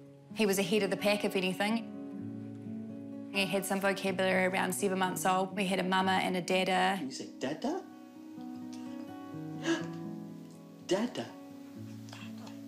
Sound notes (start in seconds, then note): 9.6 gasps